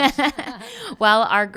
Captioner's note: laughing